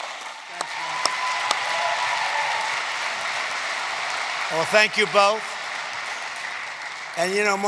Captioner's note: applause